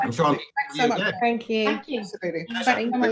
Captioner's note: lots of thanks yous and byes